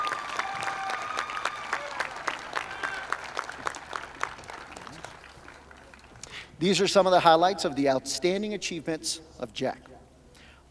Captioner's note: cheers and applause